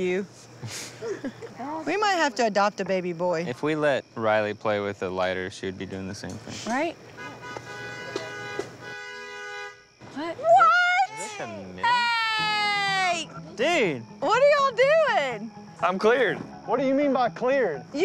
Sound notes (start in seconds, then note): 0.7 laughing; 7.1 honking